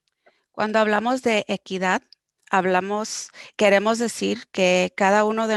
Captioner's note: speaking foreign language